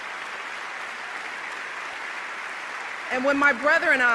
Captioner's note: applause